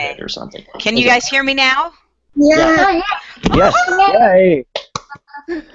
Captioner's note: general cheering and clapping